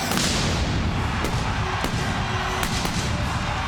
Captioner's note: pyro booms